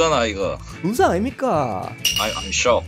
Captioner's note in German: im Busan-Dialekt